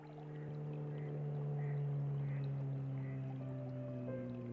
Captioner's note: distant engine humming; soft music